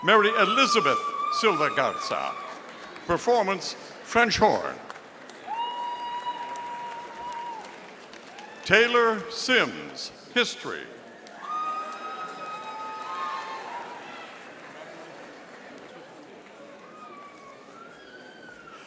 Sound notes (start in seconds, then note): 4.4 audience applauding; 11.1 audience applauding